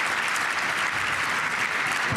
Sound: applause

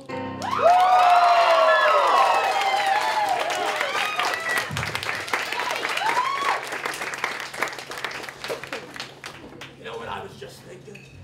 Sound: applause

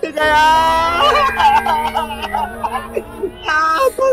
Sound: crying

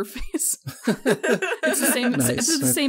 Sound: laugh

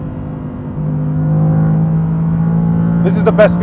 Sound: engine revving

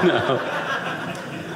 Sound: audience laughing

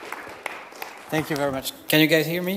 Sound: audience applauds

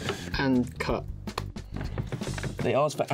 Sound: hands clapping

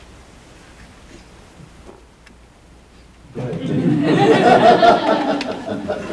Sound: laughter

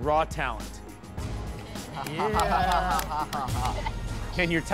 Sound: kids chuckle

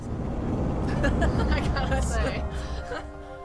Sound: laughs

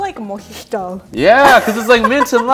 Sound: laughs

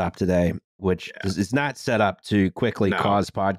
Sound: quietly

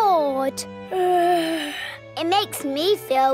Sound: yawns

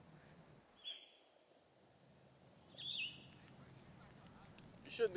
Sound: birds chirping

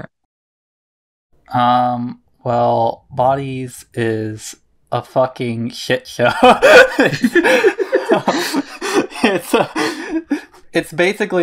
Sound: both laugh

